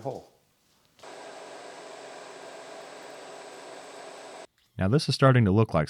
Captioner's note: machine whirring